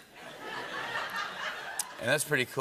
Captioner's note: laughter